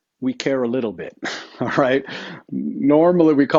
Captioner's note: chuckles